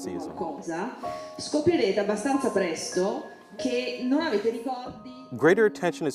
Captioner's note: speaking in foreign language